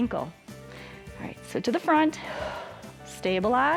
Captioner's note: exhales